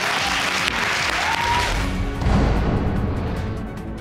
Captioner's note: audience applauds and cheers